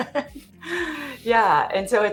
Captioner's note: laughs